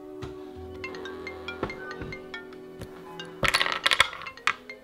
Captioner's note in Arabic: رنين الهاتف